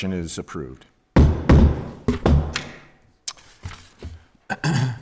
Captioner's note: gave thuds